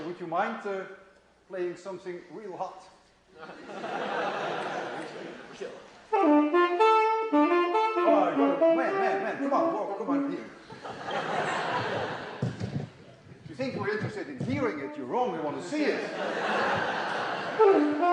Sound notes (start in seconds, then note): 3.4 laughter; 3.6 plays saxophone; 10.6 laughter; 17.3 plays saxophone; 17.9 laughter